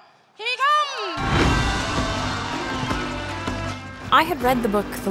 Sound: crowd cheers

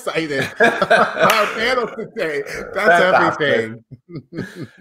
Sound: laughing

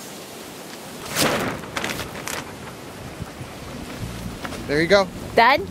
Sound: hoop house rustling

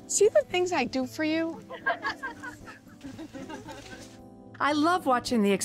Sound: laughter

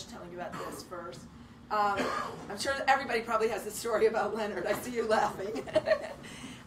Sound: she laughs

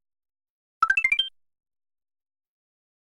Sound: 16-bit 1UP sound

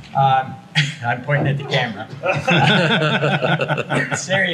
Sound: everyone laughs

